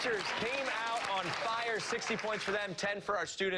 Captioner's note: cheers and applause